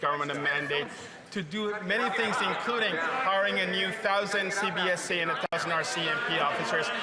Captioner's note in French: voix de l'interprète